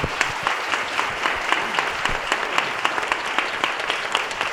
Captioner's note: applause